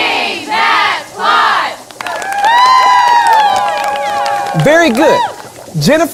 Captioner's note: cheering